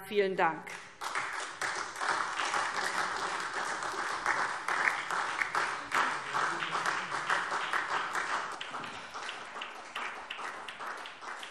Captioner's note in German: Anhaltender Beifall SPD